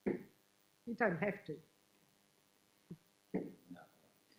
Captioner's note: woman's Voice